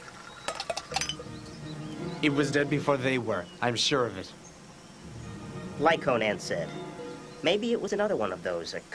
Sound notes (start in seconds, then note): 0.8 tapping